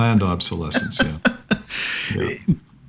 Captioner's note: laughing